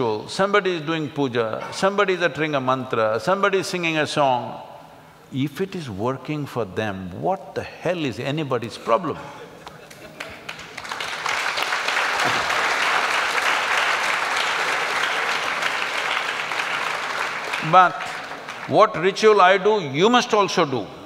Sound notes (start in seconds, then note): 13.6 applauds